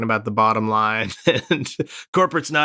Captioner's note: laughter